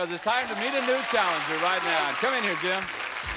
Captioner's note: applause